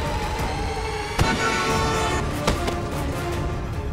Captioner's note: vehicle honking